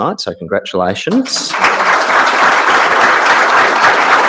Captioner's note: applause